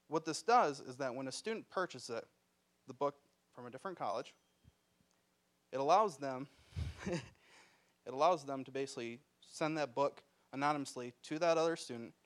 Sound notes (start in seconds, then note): 5.1 bell dinging; 6.8 chuckling